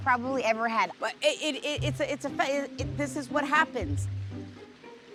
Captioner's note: stammers